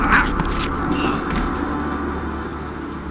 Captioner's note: thud